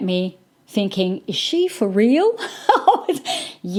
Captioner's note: laughs